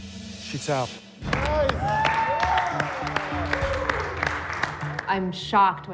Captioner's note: cheers and applause